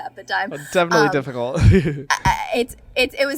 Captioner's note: laughs